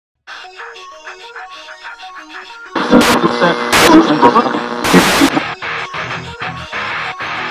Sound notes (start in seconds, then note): 0.7 digital music; 2.7 static